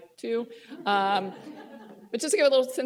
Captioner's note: laughter